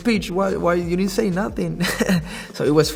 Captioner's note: laughs